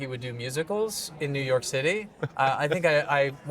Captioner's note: chuckling